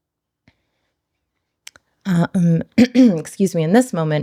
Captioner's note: clears throat